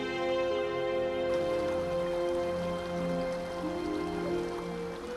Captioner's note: water murmuring; gentle flute music